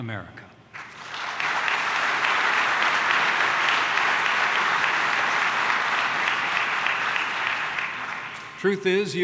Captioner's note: applause